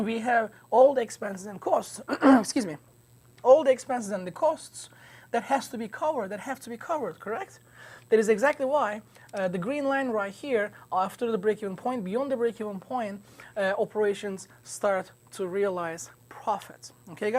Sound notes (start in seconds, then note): 2.0 clears throat